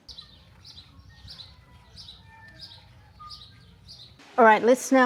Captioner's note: bird song